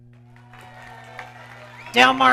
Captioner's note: audience cheering